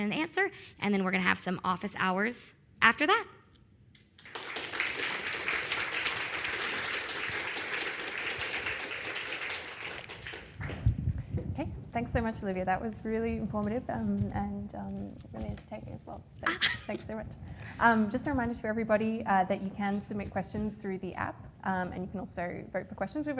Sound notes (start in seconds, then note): 4.2 audience applauding